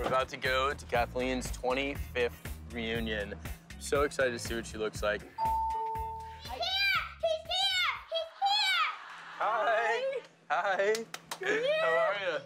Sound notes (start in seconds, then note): 5.4 doorbell rings